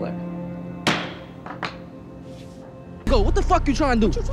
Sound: gavel banging

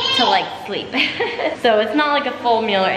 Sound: laughs

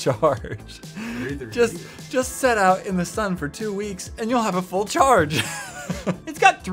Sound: laughing; laughs

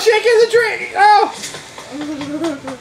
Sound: net whacks; footsteps

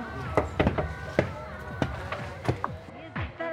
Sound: knocks

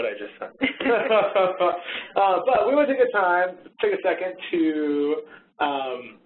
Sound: laughs

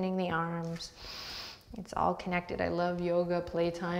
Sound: deep breath

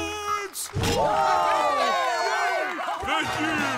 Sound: cheering

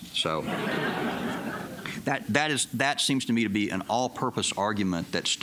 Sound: laughter

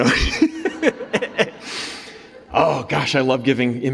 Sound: laughs

